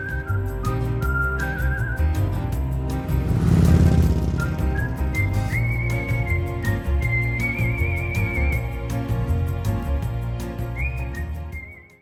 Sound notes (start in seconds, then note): 0.2 lively music; 3.5 motorbike roaring; 5.4 lively music